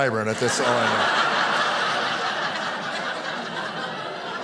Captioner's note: audience laughing